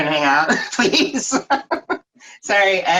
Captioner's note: laughing